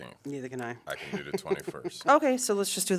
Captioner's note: laughter